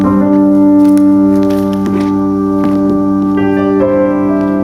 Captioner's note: somber music; paper rustling